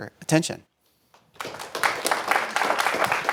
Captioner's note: applause